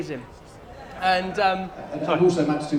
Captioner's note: whispers